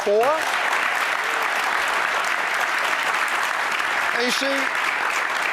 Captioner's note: applause